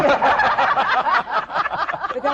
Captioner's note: laughter